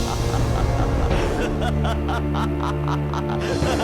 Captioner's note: laughter